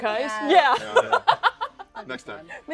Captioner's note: laughs